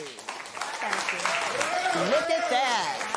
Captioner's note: applause